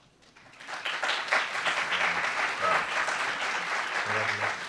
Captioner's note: applauds